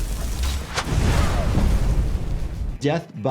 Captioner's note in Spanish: el fuego crepita; Bola de fuego explota; los devotos gritan